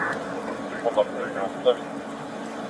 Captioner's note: radio chatter